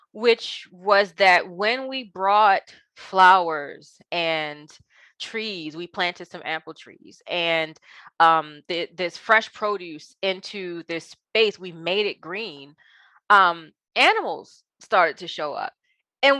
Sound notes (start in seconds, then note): none